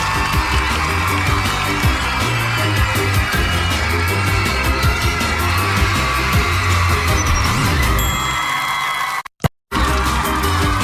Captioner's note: cheers and applause; upbeat music